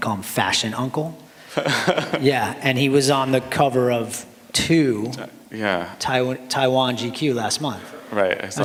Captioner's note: laughter